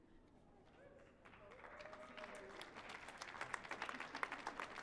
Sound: crowd applauds

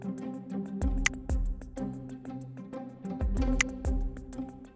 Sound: click; click

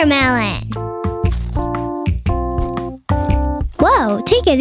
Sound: Ed chomping

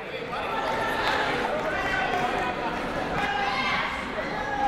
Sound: people shouting in the crowd

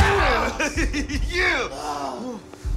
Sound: laughs

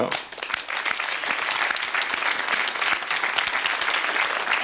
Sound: applause

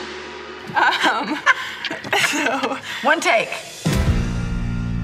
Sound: chuckles

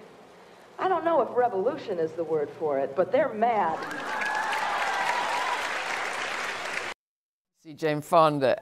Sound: cheering

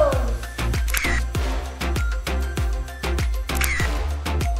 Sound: camera shutter

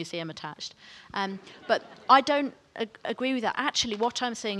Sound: audience laughs

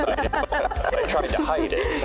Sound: laughter

